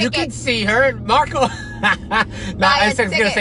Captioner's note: laughing